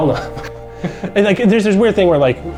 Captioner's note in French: en riant